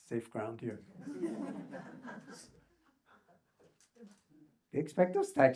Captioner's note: audience laughs